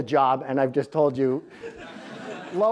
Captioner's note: crowd laughs